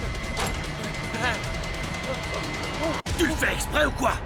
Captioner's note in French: la musique tendue continue; les gens crient